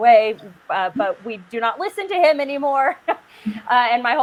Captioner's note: laughs